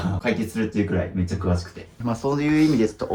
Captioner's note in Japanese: 咳払い